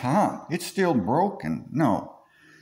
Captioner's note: redneck voice